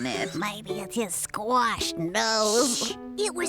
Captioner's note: whispering